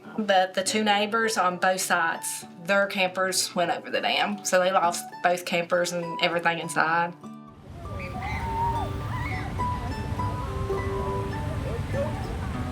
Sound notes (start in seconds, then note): 7.1 calm music; 7.6 river roaring